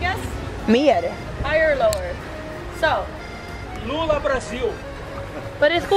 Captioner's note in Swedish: Man säger något på okänt språk